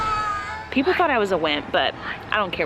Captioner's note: scream